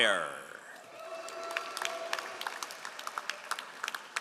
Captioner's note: all applauding